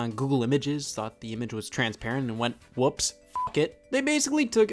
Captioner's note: beep